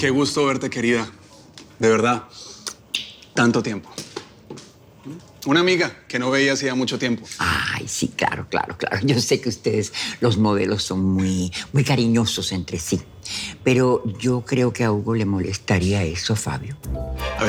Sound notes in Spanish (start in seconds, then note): none